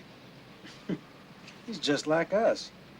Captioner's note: Artie chuckles